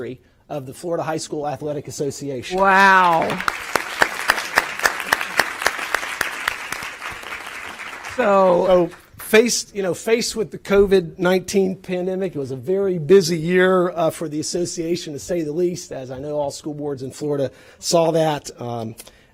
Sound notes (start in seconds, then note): 8.9 applause